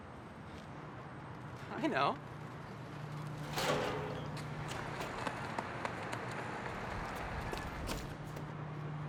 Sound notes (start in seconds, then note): 3.4 metal clangs